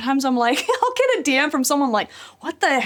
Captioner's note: laughs